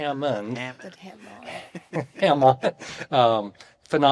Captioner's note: laughs